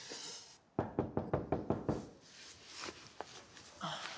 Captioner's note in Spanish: toques en la puerta